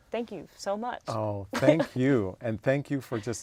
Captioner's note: laugh